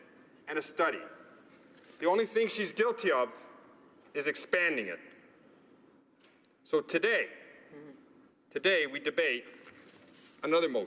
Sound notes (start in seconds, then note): none